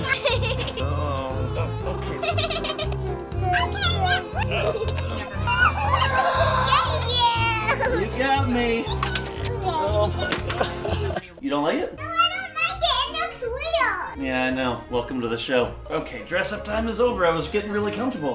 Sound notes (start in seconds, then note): 0.0 giggles; 0.6 groaning while he puts on the wings; 2.0 giggling; 3.3 kid makes silly noises while another is talking in the background; 5.5 more giggling; 8.6 giggles